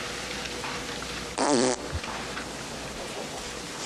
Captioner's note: fart